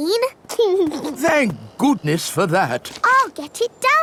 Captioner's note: giggles